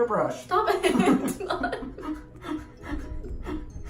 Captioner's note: laughs